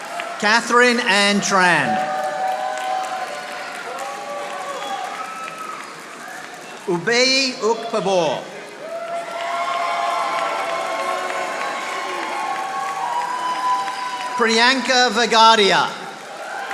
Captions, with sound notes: Katherine Ann Tran. (audience applauding) Ube Upabor. (audience applauding) Priyanka Vagadiya.